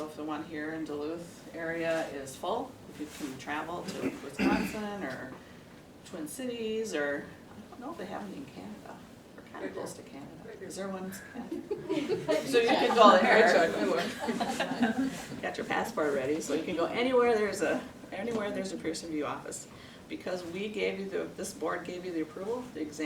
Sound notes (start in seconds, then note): 11.5 laughs